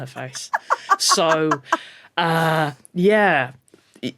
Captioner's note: cackles